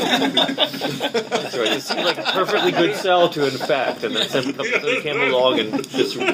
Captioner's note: laughing